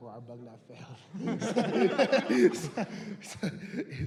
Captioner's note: laughter